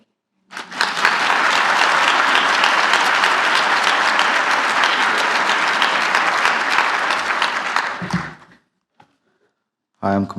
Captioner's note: applause